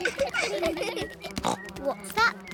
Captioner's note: buzzing